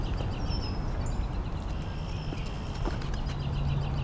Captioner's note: footsteps pattering